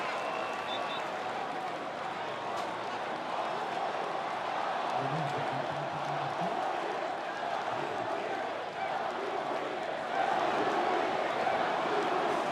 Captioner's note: applause; cheering